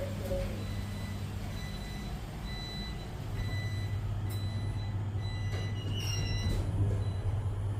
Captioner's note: door buzzer